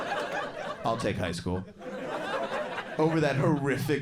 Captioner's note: crowd laughs